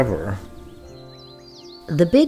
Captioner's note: birds chirping